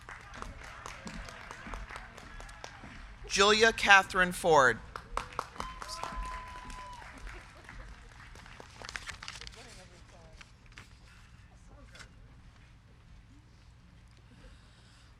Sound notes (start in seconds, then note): 0.2 crowd clapping; 5.1 crowd cheering; 5.2 crowd clapping